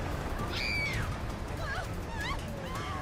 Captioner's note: screaming subsides